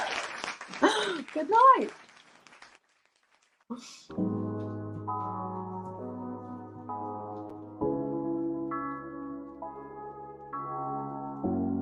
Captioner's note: applause